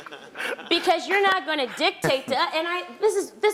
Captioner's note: laugh